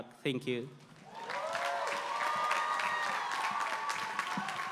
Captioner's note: applause